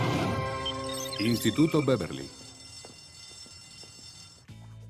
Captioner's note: school bell rings